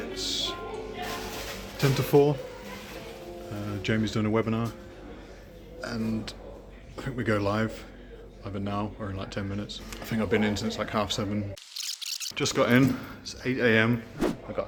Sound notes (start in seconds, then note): 11.7 camera rewinds